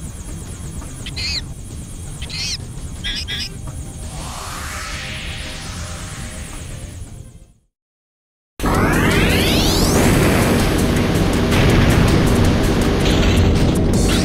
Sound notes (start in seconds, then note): 0.8 Screech; 4.0 Screech